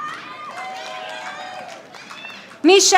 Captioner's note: audience applauding